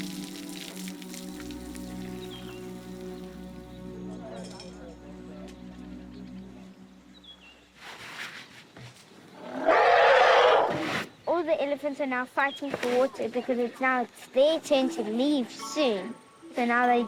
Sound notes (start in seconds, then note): 4.5 indistinct chatter; 10.3 trumpets